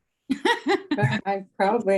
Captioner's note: all laughing